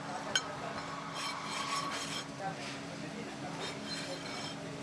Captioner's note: people chattering